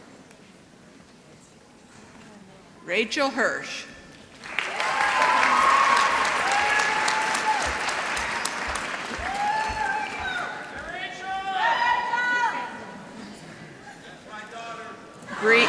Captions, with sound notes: Rachel Hirsch. [ Applause ] >> Yo Rachel. That's my daughter.